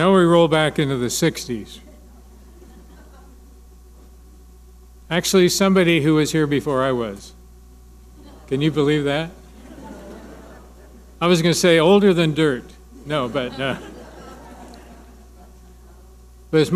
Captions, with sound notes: - And now we roll back into the 60's. Actually somebody who was here before I was. Can you believe that? (audience laughing) I was gonna say older than dirt, no but, no. (audience laughing)